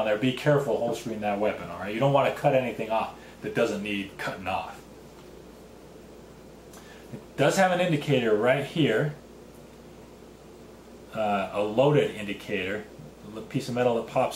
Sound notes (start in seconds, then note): 5.8 pause